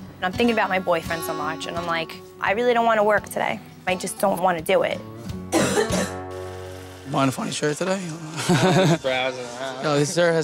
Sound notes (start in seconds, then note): 5.5 coughs; 8.2 laughs